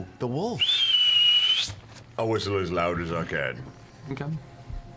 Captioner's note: whistles